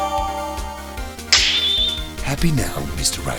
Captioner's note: snap!